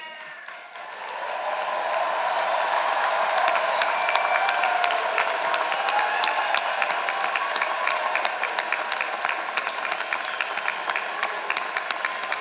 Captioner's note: applause